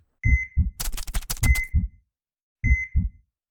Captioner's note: beeping